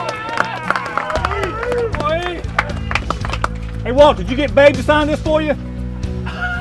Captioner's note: cheers and applause